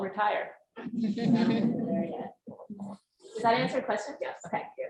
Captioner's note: audience laughs